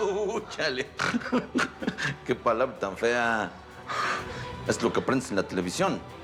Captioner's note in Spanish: risas